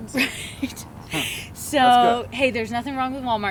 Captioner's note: laughs